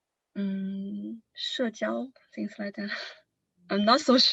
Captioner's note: non-english lanugage